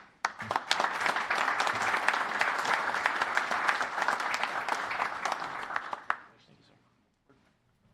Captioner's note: applause